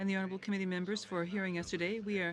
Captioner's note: speaking French